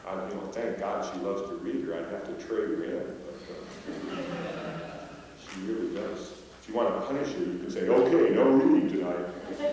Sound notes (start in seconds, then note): 3.6 laughter